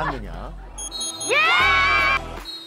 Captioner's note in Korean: 호루라기 소리